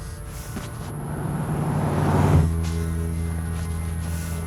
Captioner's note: engine revving